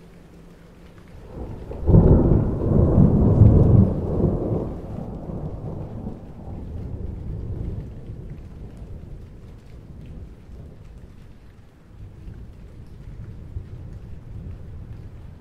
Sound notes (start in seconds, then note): 2.1 thunderstorm; 5.9 raining